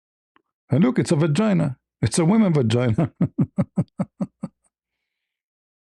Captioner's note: laughter